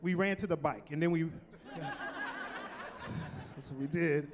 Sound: laughing

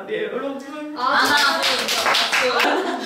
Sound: applause

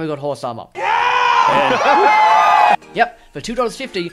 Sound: cheering

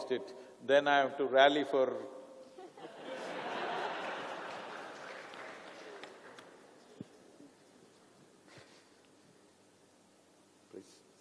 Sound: laughter/Applause

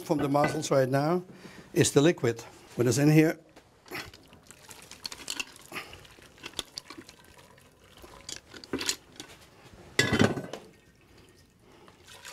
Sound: liquid noises

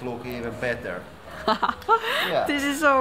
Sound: laughs

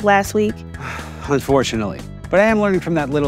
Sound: sighs

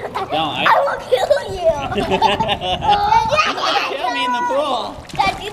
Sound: laughs

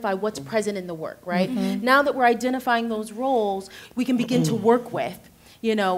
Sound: clears throat

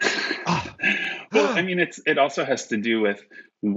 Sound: laughs

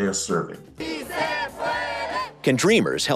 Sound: protesters chanting

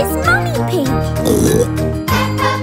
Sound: oink; singing

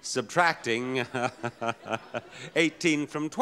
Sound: Bob laughing

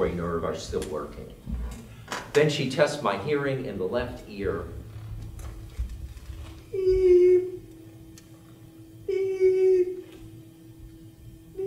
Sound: beep, beep, beep

